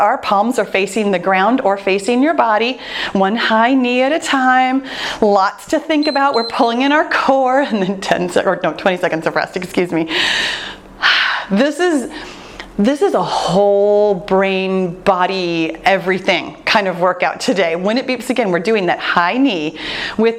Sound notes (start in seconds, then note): 5.9 timer beeps